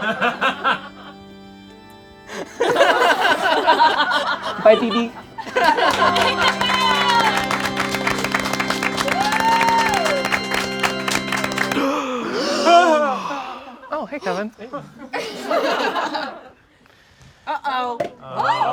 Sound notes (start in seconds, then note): 0.2 people laugh; 2.8 all laugh; 5.4 all applaud; 5.9 somber organ music; 11.6 gasps; 11.7 all gasp; 15.1 all laugh